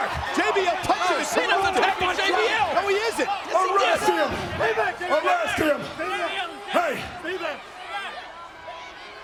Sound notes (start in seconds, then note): 2.0 overlapping chatter